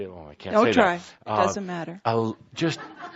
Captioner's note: laughter